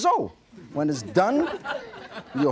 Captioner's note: audience laughing